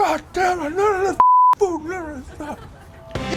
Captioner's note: beep